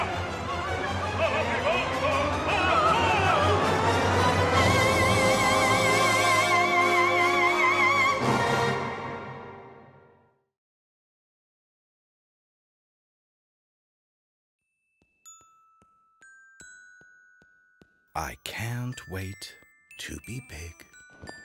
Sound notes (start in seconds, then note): 16.0 bell rings